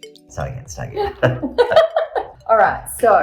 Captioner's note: both laughing